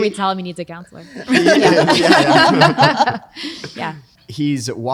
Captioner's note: laughing